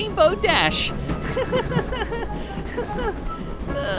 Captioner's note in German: Nervöses lachen